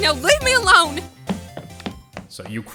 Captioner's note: rapid footsteps!